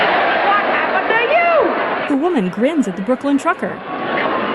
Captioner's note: crowd cheering